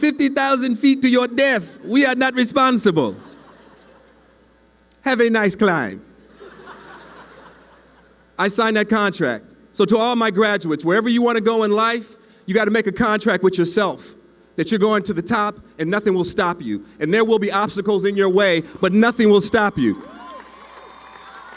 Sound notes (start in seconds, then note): 6.3 laughing